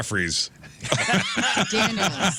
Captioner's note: laughter